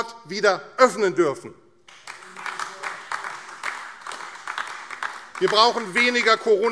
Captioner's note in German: Beifall AfD